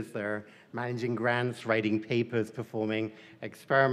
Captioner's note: none